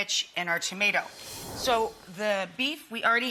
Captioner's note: whooshing